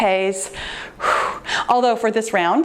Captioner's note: exhales